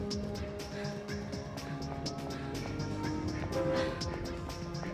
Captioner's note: sirens wail